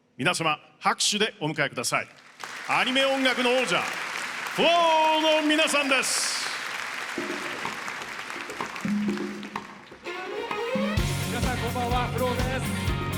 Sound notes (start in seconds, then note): 7.1 applause